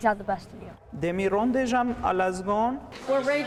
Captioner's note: speaks in foreign language